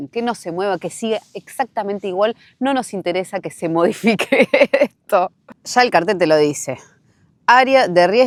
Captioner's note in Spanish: risas